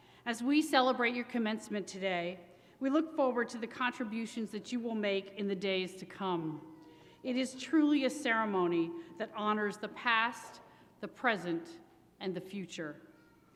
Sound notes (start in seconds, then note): none